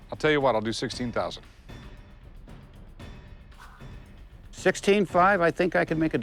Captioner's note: none